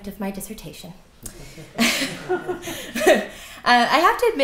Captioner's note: laughter